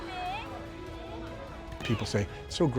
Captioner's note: group chattering